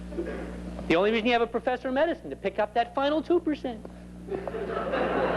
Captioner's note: laughter